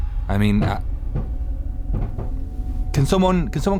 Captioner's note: bumping